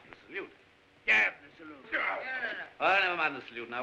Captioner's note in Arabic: الحراس يتذمرون